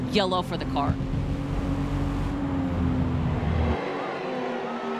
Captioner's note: engines thrumming